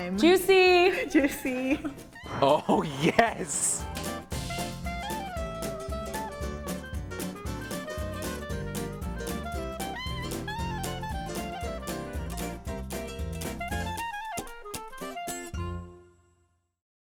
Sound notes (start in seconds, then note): 2.8 voiceover; 5.0 upbeat music